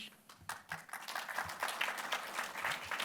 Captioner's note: applause